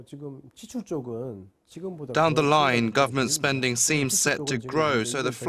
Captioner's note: Korean